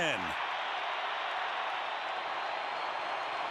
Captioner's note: crowd cheering